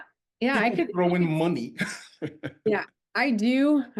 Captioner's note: laughs